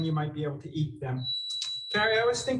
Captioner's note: timer beeping